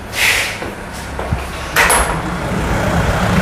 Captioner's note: doors noise